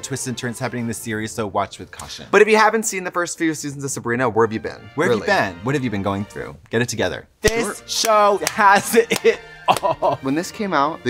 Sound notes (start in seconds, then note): 7.9 clap